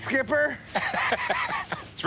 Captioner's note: chuckling